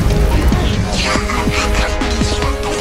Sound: Goosar quacking; Pian whimpering

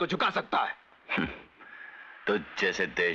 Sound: chuckles

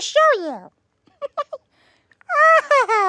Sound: giggling

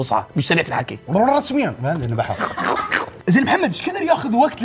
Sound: laughs

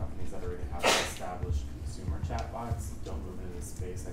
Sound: audience member sneezing drowns dialog

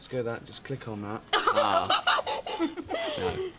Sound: laughs

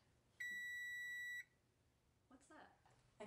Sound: beeping

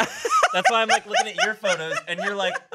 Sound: laughs

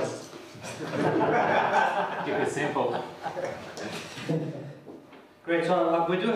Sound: laughter

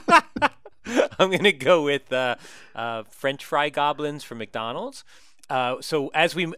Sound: laugh

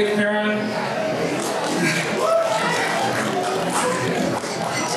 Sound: applause

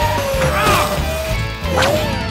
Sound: grunting

